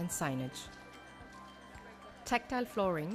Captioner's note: applause